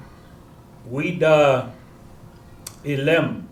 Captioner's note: non-english speech